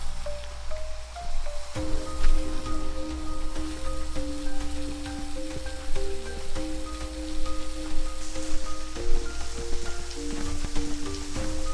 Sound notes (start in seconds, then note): 0.3 serene music; 5.7 dry leaves rustling